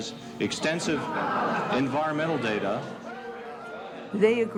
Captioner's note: crowd jeering